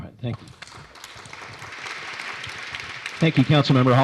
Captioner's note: applause